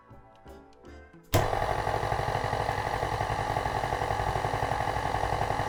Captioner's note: mixer whirring